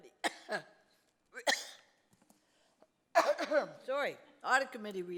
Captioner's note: coughs; coughing